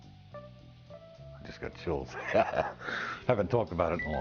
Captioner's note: laughs